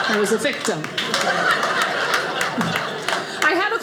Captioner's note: audience laughing